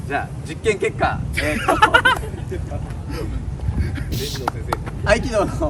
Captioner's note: laughs